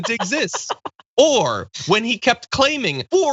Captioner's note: laugh